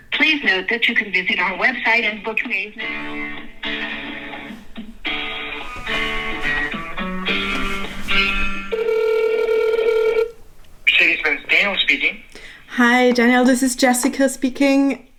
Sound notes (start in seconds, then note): 4.5 hold music; 9.3 ringing